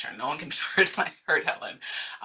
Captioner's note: chuckling